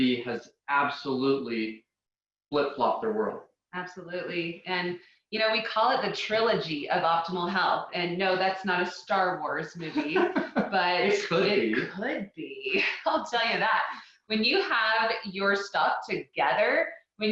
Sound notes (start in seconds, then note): 9.8 laughing; 12.6 chuckling